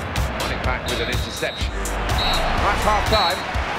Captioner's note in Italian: fischi di fine primo tempo